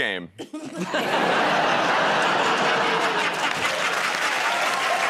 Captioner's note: laughter